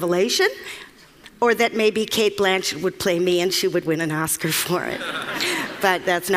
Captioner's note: Laughter; 笑聲